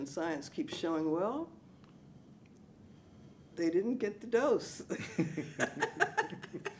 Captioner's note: laughs